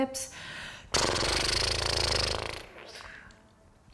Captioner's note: blows raspberry